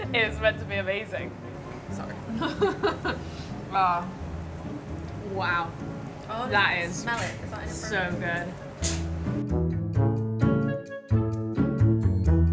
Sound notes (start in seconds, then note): 2.3 laughs; 9.0 bright playful music